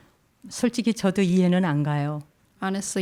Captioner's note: speaking in Korean